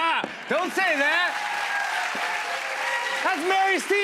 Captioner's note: cheers and applause